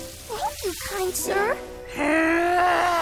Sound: growling

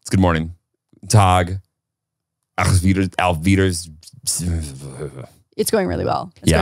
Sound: speaking in German

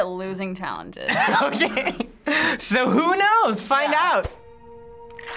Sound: laughs

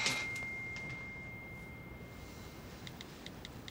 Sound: text message sound; typing

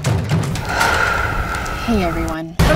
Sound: exhales

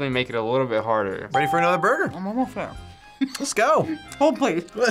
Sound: laughs

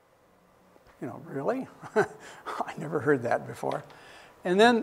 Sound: chuckles

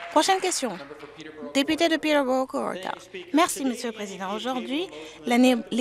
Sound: applause

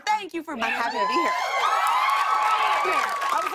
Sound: cheers and applause

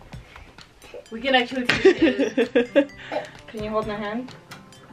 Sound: laughter

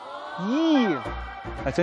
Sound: eh

